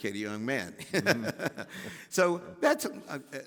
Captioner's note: Henry laughing